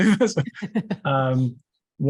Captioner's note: laughter